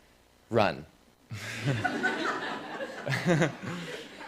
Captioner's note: laughter